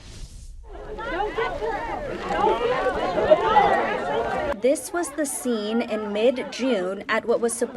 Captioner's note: collective chatter